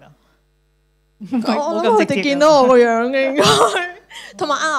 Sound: Cantonese

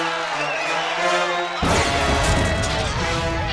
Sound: thundering

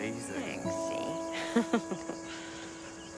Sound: Olive chuckles

